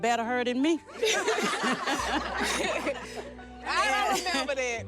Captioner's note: laughter